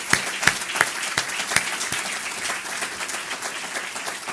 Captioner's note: audience applause